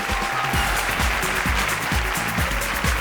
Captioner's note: applause & cheers